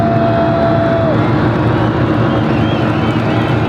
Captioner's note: fans cheering